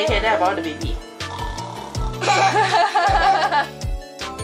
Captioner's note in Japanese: いびき